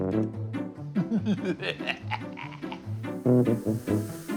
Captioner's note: cackling